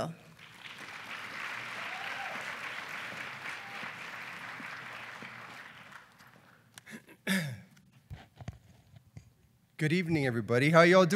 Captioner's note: applause